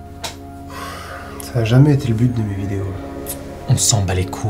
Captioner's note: sigh